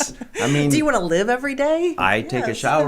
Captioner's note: laughing